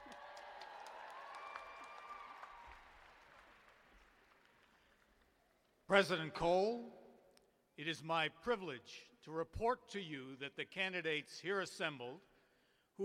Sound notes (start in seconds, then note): 3.3 cheers and applause